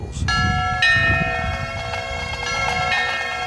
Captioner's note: bells ringing; ♫ bagpipes and drums